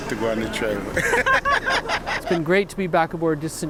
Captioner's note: both laughing